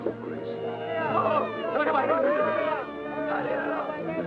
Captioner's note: baby cries